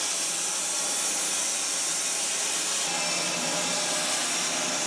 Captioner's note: saw whirring